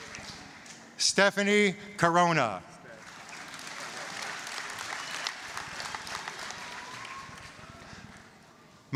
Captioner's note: applause, cheering; applause